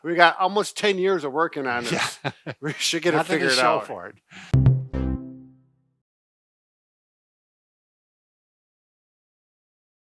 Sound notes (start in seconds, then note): 1.7 laughs